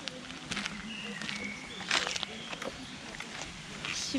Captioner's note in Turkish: Ayak sesleri & Kuş sesleri